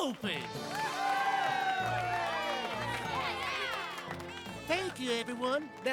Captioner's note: cheers & Applause